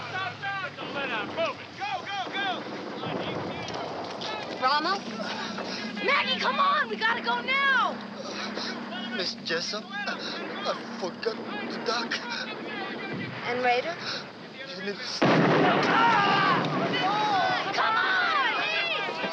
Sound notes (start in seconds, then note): 15.0 explosion